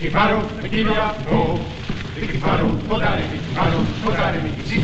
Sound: chanting Continues

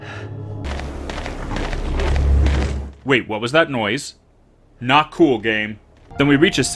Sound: James panting; faint cracking noise

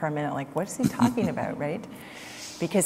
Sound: Sadhguru Laughs

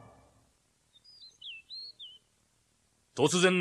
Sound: SFX: birdsong

